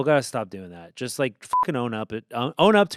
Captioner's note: beep